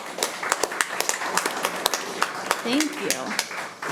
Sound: committee applauding

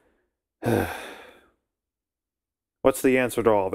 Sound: sigh

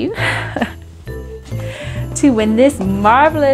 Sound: chuckles

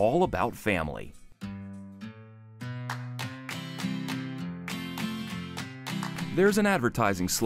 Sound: rhythmic clapping

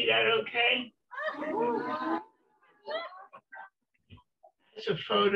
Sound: laughter

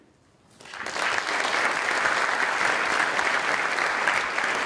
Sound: applause

